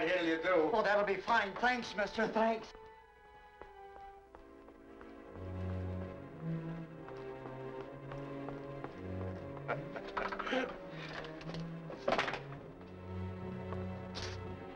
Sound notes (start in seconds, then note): 4.9 suspenseful music; 9.6 man chuckles